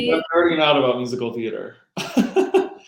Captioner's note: microphone distorting; laughing